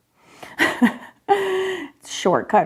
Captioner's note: laughing